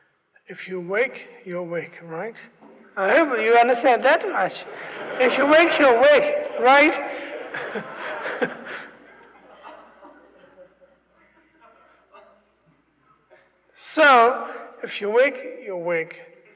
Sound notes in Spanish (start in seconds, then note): 4.7 risas; 8.2 se ríe, risas